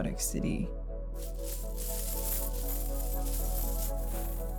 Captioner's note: coins clinking